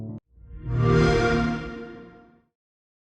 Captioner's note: xbox sound